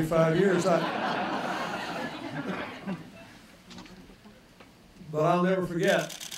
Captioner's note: laughter